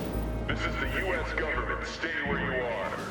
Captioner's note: loudspeaker